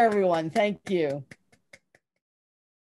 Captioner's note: clapping